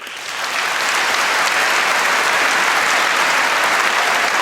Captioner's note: applause